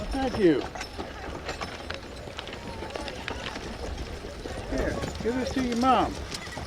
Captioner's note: people chattering